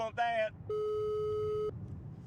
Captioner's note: phone rings